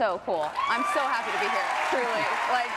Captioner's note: group cheering and applauding